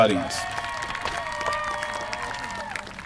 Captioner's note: applause